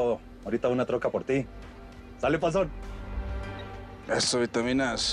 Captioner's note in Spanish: Bip